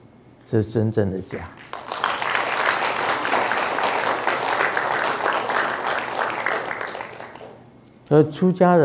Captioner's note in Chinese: 眾鼓掌